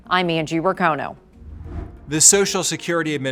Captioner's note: air whooshing